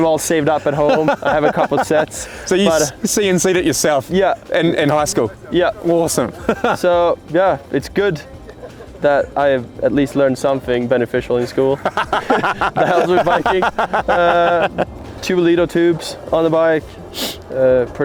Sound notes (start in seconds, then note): 0.4 laughing; 11.4 laughing